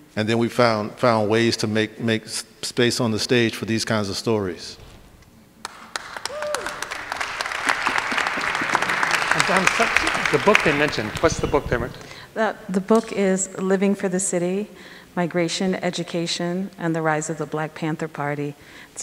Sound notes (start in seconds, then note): 5.6 audience applauding